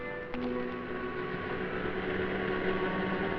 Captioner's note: vehicle approaches